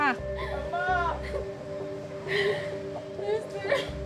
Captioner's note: sobbing